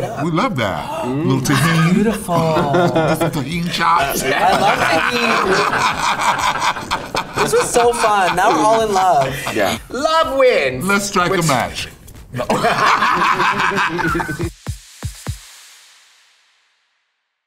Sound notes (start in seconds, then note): 4.1 Latrice laughs; 12.3 group laughs; 14.6 upbeat music fades out